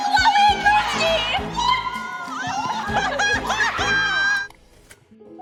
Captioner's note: laughs